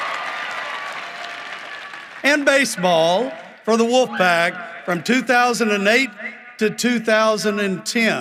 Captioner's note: cheering and applause